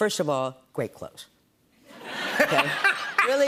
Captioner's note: laughter